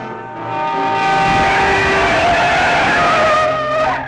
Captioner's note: horns wailing